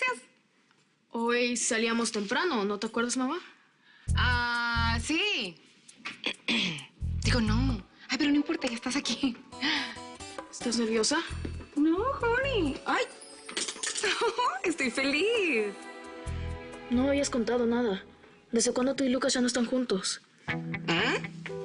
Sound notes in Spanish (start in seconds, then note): 6.1 Carraspea; 14.2 Ríe